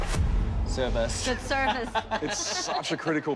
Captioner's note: laughs